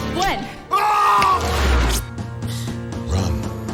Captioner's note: shouting